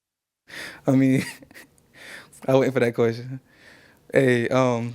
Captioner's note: laughing